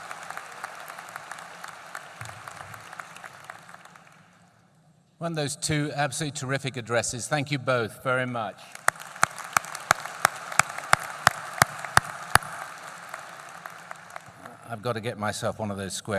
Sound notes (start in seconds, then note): 0.0 applause; 8.6 applause